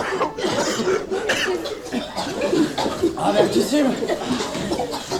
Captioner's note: they are coughing